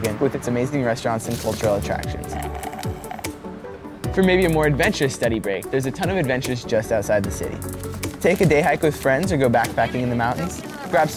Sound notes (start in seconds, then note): 2.1 straw slurps